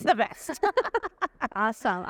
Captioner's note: laughing